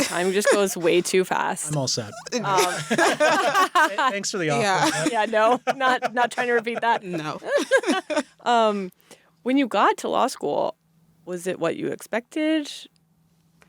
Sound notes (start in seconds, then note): 2.1 laughter